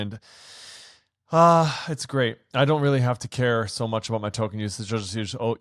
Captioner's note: inhales